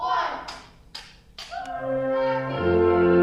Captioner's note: party poppers crack